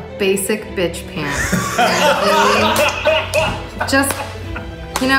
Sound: laughing

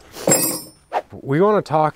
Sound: metals crank

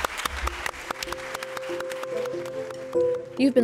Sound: applause

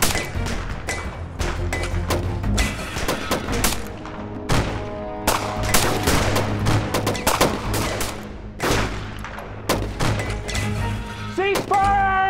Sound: gunfire continues

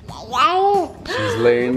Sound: laughing; baby coos

